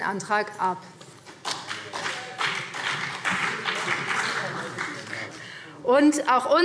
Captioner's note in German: Beifall BÜNDNIS 90/DIE GRÜNEN